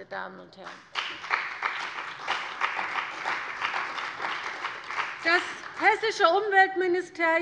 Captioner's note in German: Beifall bei der CDU und dem BÜNDNIS 90/DIE GRÜNEN